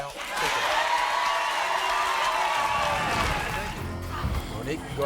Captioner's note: crowd cheering